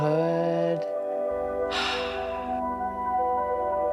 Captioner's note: sighs